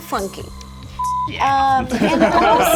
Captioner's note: beep; all laughing